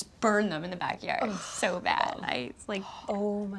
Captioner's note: Ashley groans